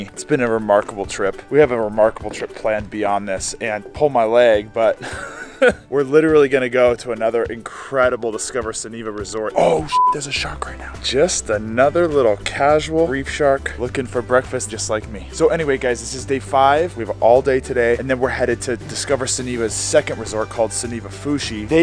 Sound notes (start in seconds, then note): 5.0 laughing; 9.8 beep